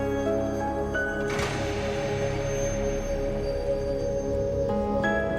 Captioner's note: door closes